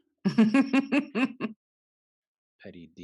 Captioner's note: laugh